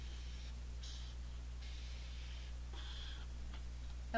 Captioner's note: chalk scratching